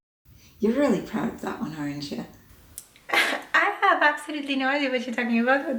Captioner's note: laughs